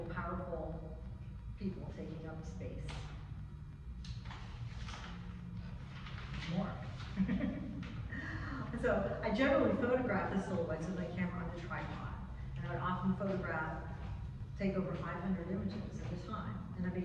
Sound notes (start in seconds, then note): 7.1 chuckles